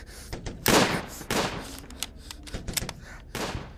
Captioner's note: gun shots